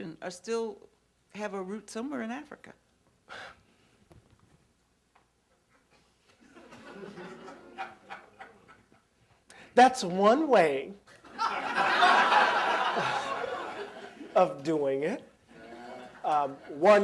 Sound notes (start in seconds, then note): 6.4 laughter